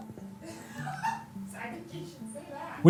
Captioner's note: crew laughs